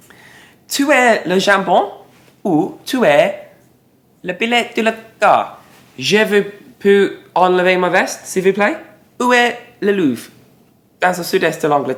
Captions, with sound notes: - Tout est le jambon, ou tout est le pine-tulata? - (Speaking in French)